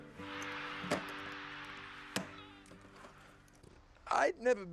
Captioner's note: crowd cheering